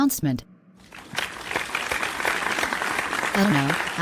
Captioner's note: applause